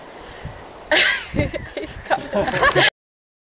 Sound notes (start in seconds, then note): 0.9 laughing